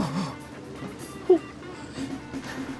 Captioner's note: sobs